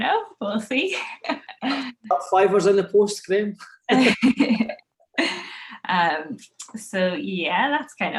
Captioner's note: laughing